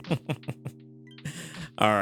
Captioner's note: laughs